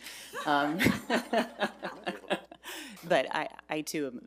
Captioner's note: laughs